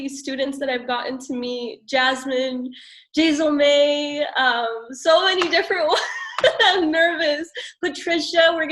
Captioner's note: chuckles